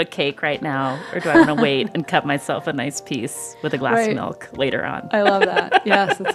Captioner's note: laughter